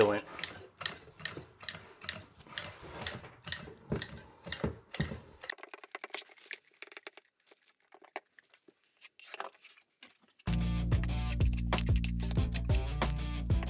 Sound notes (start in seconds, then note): 0.1 tube pumping; 11.0 gentle music